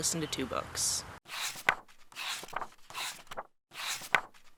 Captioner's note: pages turning